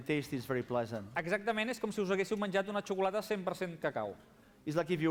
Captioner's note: non-english speech